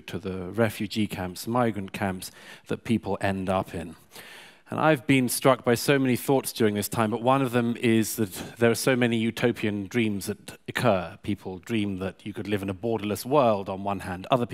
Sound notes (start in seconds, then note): none